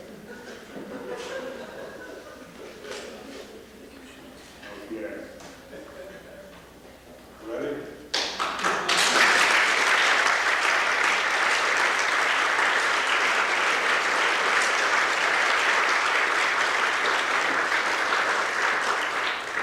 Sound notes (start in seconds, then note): 0.0 audience laughter; 8.1 applause